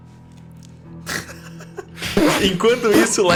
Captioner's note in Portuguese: risada